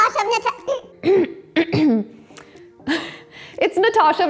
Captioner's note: clears throat